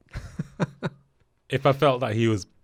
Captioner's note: laughs